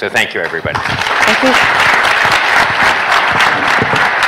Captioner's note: applause